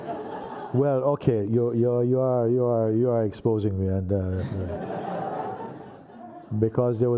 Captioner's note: laughter; laughter